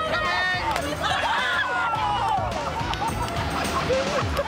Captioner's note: laughter